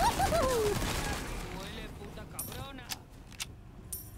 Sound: NPC Yelling In Spanish

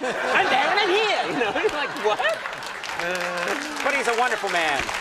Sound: laughs

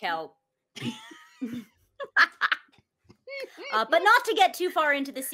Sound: laughing

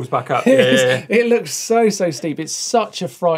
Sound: laughs

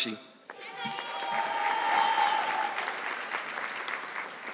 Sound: audience clapping

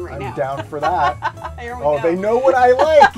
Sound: laughs

